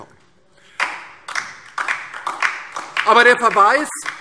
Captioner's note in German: Beifall DIE LINKE